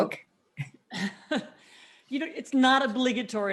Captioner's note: laughs